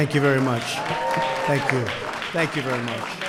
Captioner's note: applause